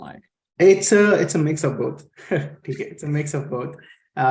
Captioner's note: chuckles